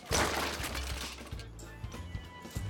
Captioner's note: clanking